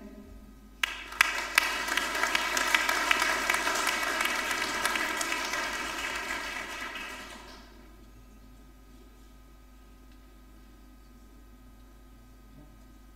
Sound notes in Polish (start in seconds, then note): 0.8 oklaski